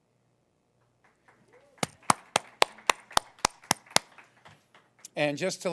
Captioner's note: applause